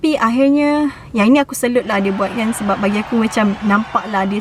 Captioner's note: crowds cheering